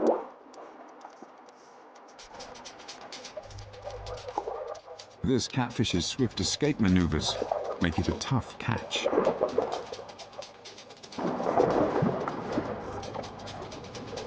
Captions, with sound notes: This catfish's swift escape maneuvers make it a tough catch. (dramatic music) (water gurgles)